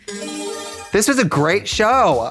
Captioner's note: bright chime